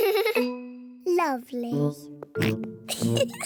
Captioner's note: giggles; george oinks; giggles